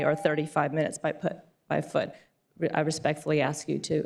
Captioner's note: beep